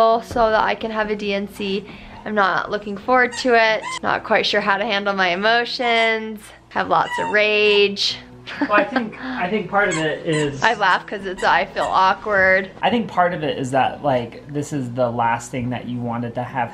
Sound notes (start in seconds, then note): 8.5 laughs